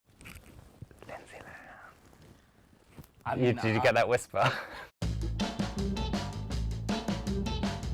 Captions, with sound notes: - Lindsay Lohan. Did you get that whisper (laughs)? (upbeat music)